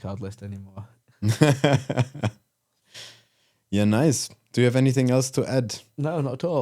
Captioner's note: laughing